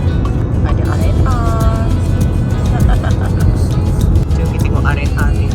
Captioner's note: laugh